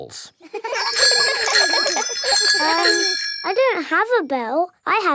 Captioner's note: giggling and ringing bells